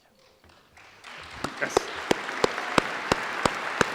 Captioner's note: applause